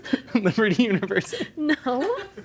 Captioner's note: laughing